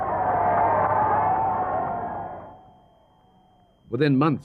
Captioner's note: people cheering